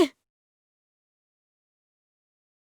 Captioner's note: silence